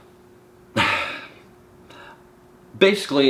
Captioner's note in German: seufzt